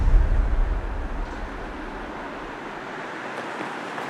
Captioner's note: traffic moving